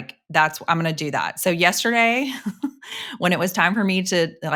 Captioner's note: chuckles